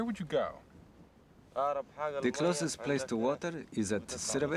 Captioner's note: speaking foreign language